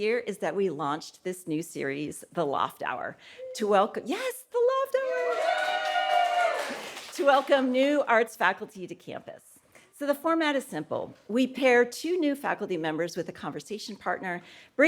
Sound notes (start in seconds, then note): 5.0 audience cheering